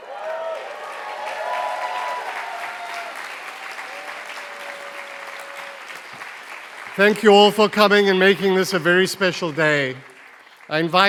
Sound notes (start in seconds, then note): 0.0 applause